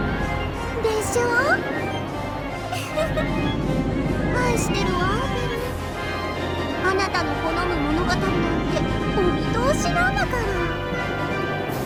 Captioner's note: giggle, giggle